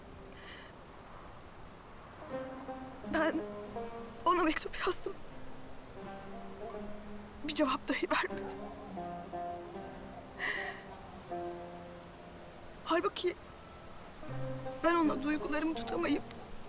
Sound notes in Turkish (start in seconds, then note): 10.4 Nefes sesi